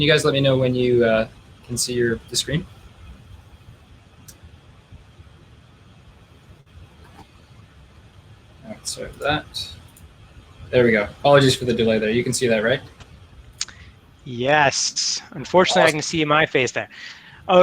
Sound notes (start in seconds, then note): 9.8 clicking